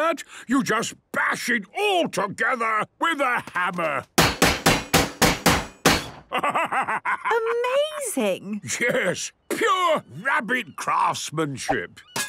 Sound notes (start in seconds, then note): 4.2 metallic bashing